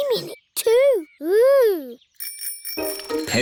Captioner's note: bicycle bells ringing